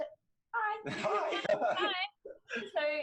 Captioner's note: laughs